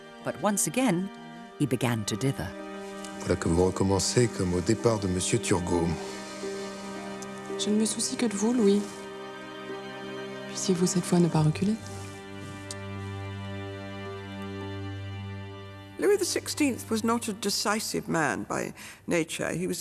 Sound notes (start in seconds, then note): 3.3 people speaking in French; 3.3 tense music